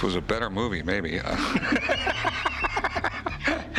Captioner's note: laughter